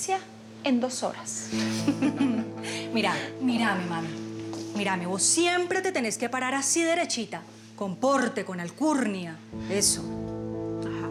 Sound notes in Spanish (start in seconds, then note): 1.6 risas